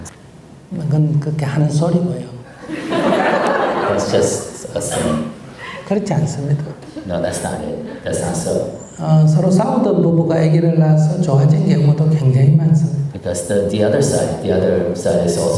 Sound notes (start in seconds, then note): 2.6 audience Laughter